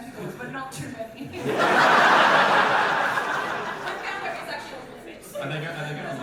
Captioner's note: audience laughter